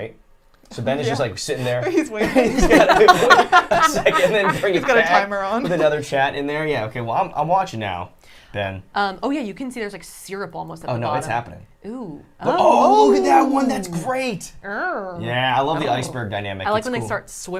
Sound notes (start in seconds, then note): 1.6 group laughing; 14.7 growls